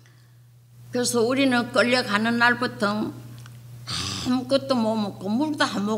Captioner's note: speaking foreign language